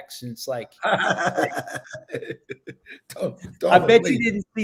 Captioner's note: Danny laughing